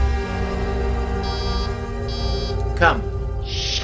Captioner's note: door buzzes